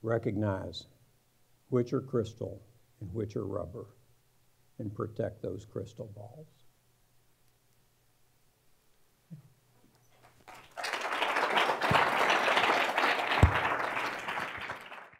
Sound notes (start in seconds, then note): 10.2 audience applauds